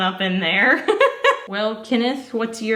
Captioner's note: giggles